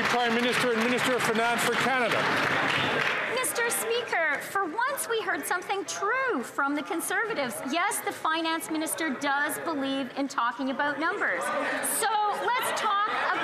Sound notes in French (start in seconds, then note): 3.7 applaudissements; 8.3 voix de l'interprète